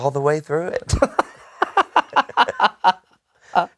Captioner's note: laughing